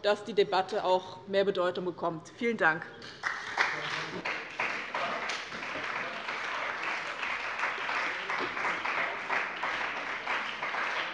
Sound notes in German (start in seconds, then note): 3.1 Beifall bei dem BÜNDNIS 90/DIE GRÜNEN und der CDU sowie bei Abgeordneten der SPD